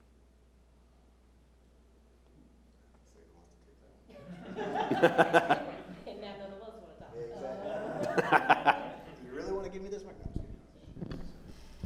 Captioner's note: chatter